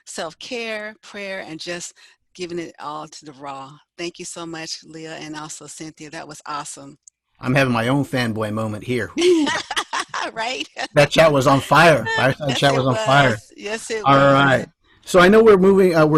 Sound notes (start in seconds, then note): 9.2 laughs